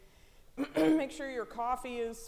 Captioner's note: clearing throat